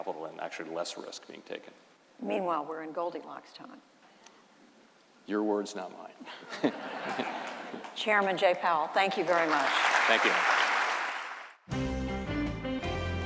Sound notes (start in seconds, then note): 6.3 laughter; 9.0 applause